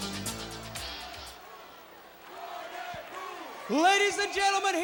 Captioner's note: crowd cheering